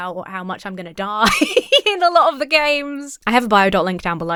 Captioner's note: laughs